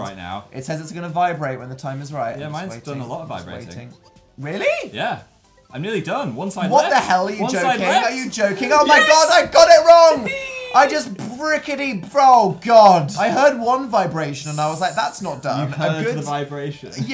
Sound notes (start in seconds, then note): 11.6 spluttering; 15.5 mocking